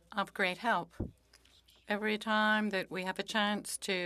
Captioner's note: speaking French